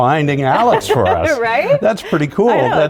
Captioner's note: laughs